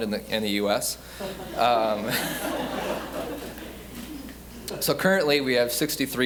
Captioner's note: audience laughing